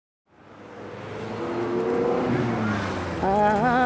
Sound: engines roaring

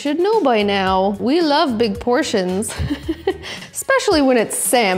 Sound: laughing

